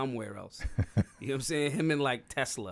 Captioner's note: laughing